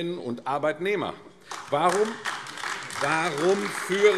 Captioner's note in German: Beifall AfD